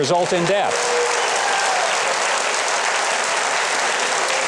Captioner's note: audience applauds